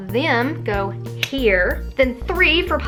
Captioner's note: snaps fingers